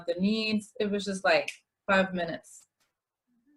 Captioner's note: snap